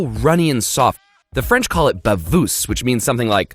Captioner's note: speaks in foreign language